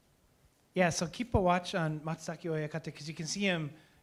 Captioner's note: speaking japanese